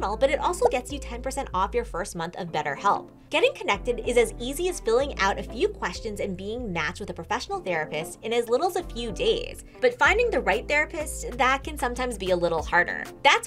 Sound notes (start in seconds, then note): none